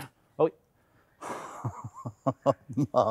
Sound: chuckling

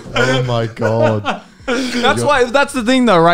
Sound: men laughing

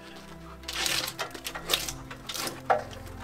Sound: bark being shaved from the log

